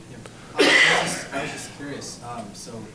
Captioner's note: audience member coughs